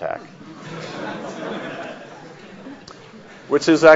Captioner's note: audience laughs